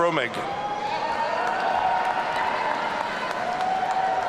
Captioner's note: audience cheering